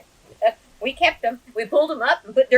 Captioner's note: laughs